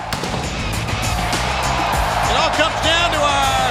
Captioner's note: fireworks exploding; catchy theme music